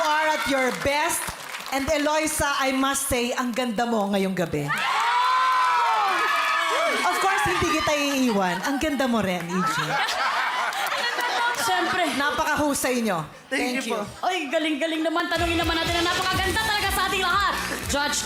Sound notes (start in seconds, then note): 6.2 audience cheering; 9.5 laughter